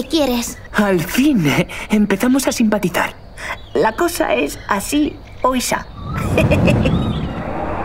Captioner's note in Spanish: ríe